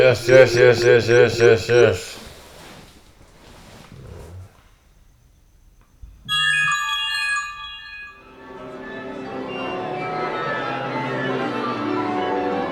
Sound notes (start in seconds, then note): 6.2 smart notification chimes